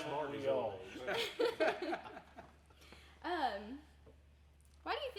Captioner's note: everyone laughing